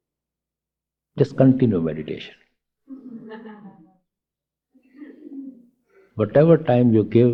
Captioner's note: slight laughter